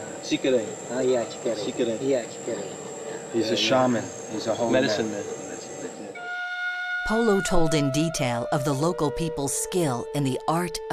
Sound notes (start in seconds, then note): 1.0 speaking mentawai